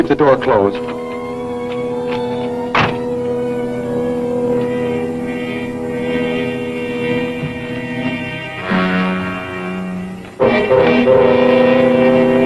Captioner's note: intriguing music; door thuds